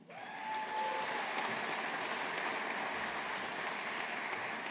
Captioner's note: audience applauding